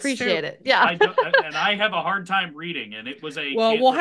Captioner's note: laughs